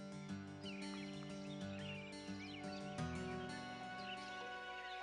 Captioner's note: birds chirp